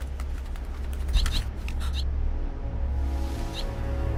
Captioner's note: bird chirping